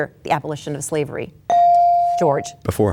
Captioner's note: bell dings